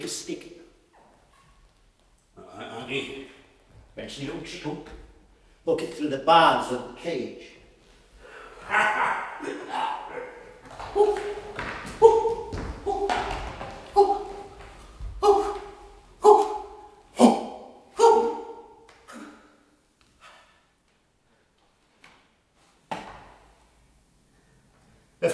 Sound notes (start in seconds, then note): 11.4 conflicted hooting